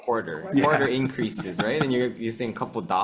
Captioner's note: chuckling